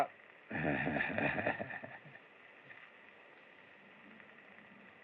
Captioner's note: chuckles